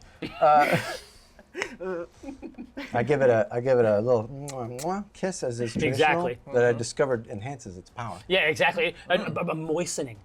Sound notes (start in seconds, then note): 1.3 laughter; 4.7 kissing sound